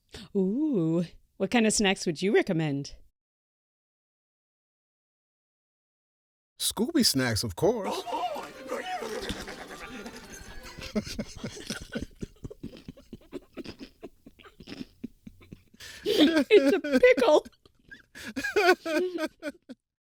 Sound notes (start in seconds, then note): 10.6 laughs wildly; 12.5 both hold back giggles as crunch-crunches; 17.8 lets his laugh out